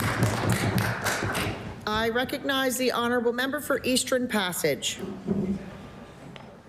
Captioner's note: applause